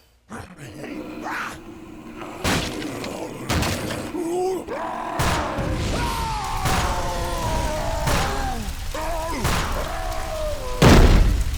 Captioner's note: mimic screaming